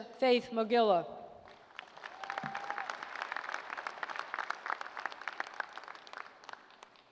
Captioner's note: applause